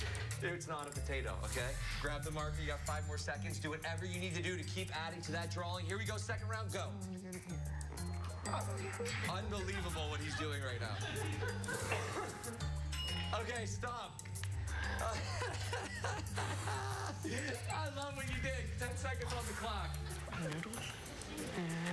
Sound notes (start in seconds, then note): 14.9 laughter